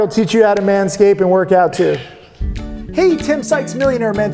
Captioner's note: laughing